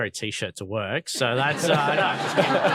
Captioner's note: all laughing